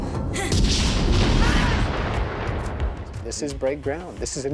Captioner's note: gun firing; grunts